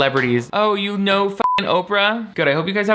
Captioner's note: beep